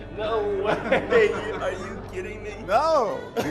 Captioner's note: laughs